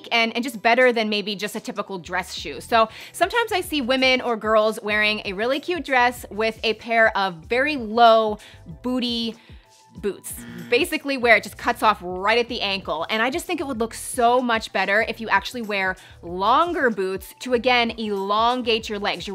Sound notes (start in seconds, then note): 10.2 buzzing